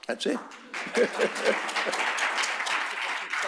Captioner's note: applause